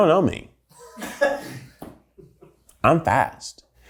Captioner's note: someone in the background laughs loudly